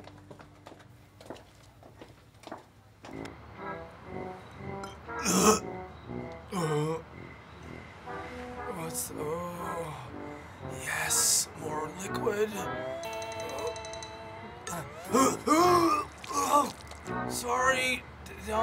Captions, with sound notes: (quirky music) (Donny gags) - Yes, more liquid. (Donny retches violently) Sorry, down below.